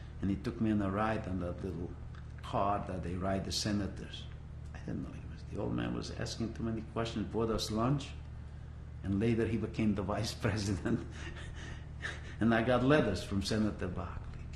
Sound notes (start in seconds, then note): 10.6 laughs